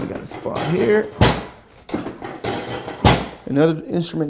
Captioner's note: metal clanks